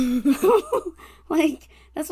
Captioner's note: laughs